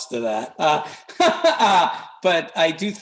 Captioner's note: laughs